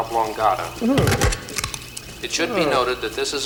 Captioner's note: Muppet exclaims